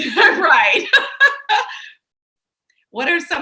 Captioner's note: laughs